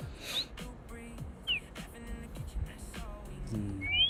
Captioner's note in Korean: 콧방귀